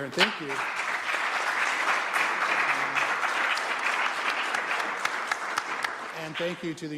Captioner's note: applause